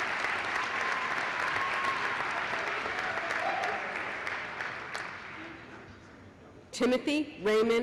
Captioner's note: applause